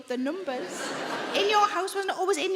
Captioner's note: audience laughing